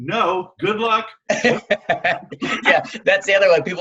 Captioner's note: laughs